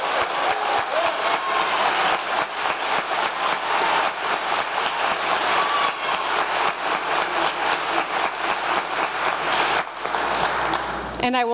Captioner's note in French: applause